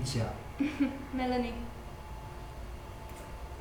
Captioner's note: laughs